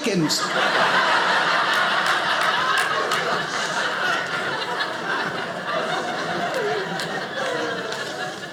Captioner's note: audience laughing